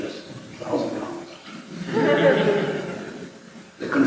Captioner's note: laughter